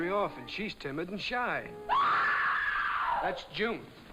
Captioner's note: loud screaming